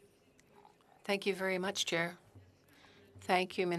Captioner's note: speaking French